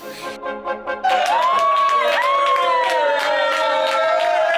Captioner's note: bright music; cast cheering